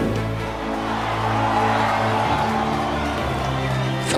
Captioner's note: cheering